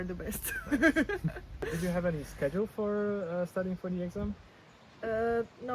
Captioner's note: laughs